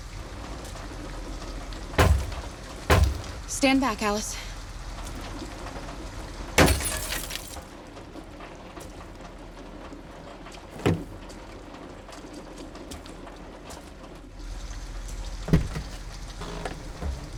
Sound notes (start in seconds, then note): 1.8 banging; 6.6 glass shatters